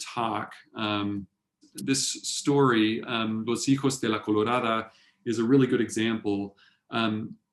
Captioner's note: spanish